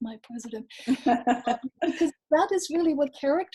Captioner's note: laughs